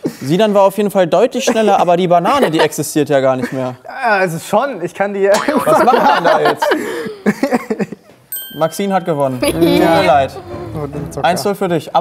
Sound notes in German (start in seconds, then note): 5.5 Lachen